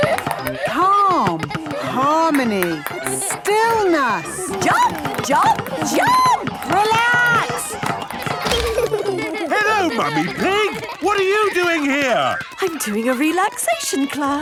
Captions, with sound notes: - Calm... harmony... stillness. - Jump, jump, jump! - Relax! (laughter) - Hello, Mummy Pig! What are you doing here?! - I'm doing a relaxation class.